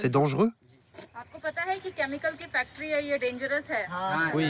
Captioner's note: Indian spoken audio